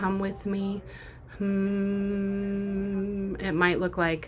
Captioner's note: humming